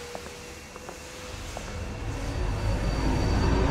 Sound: soft footsteps

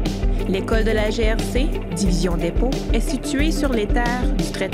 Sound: repeats the message in French

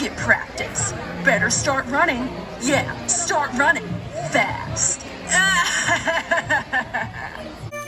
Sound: laugh

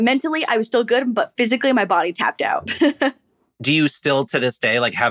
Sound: chuckles

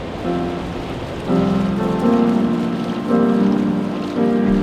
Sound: water splashing

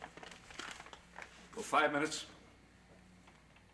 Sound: father's voice, loud

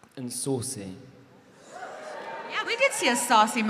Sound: audience cheering

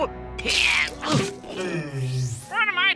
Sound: groaning

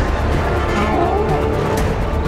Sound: gasping

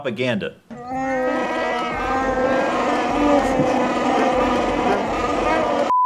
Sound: hot moans my dude

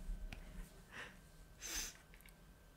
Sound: sniff

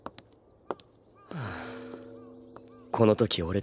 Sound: sighs

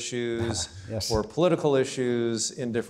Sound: laughs

